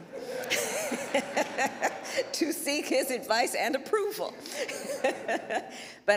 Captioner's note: laughter; laughter